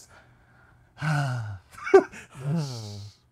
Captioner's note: laughing